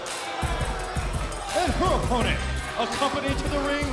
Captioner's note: crowd chatter